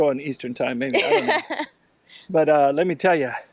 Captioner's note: laughing